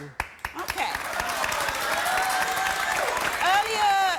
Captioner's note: applause